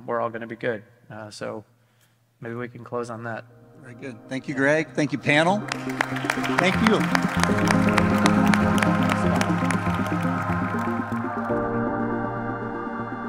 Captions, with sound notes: we're all gonna be good. So maybe we can close on that. - Very good. Thank you, Greg. Thank you, panel. Thank you. (audience applauding) (upbeat music)